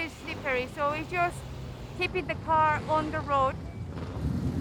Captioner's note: car engine roaring